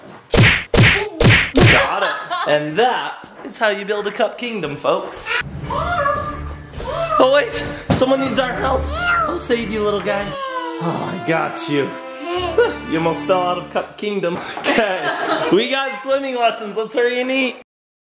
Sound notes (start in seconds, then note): 1.8 laughs